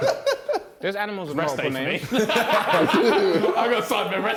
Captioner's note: JJ laughing; men laughing